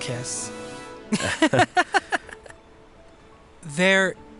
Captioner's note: both laughing